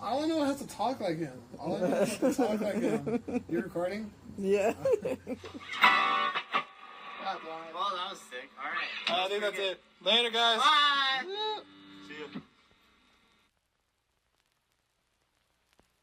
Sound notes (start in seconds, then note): 4.5 laughs; 6.2 energetic music; 11.3 person cheers